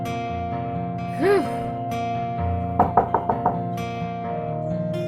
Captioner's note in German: Klopfen